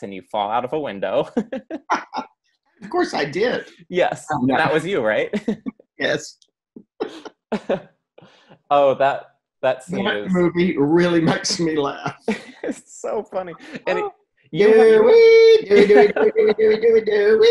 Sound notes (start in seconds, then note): 1.3 both laugh; 5.3 laughs; 6.9 laughs; 10.8 laughs; 14.6 laughs